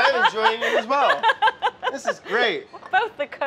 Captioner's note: laughs